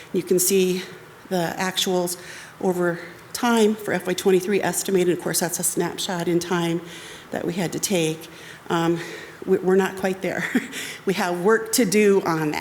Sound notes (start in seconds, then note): 10.4 chuckles